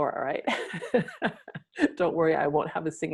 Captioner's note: laughing